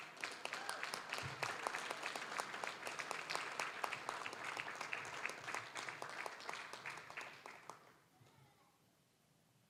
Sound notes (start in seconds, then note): 0.0 applause, cheering; 2.9 applause